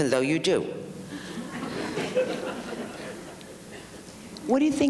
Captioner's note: audience laughs